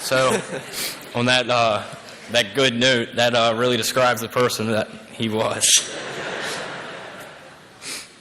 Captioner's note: laughter